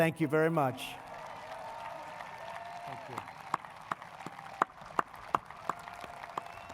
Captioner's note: applause